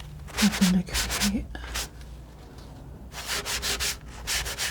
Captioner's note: scratching